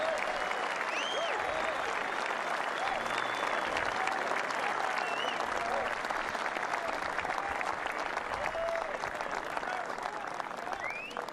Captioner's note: cheers and applause